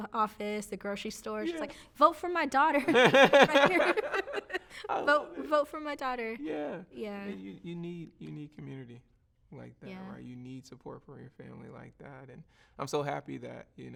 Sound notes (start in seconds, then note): 4.8 both laughing